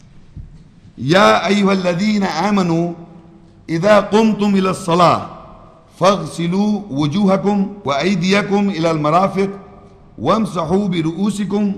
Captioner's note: Arabic